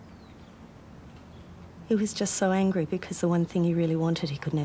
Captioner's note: none